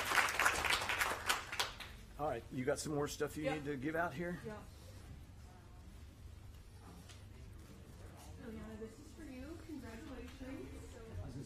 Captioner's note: applause